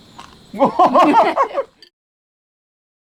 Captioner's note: both laughing